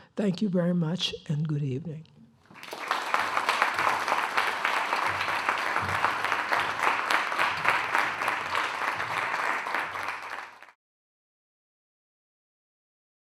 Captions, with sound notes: Thank you very much and good evening. >> [APPLAUSE]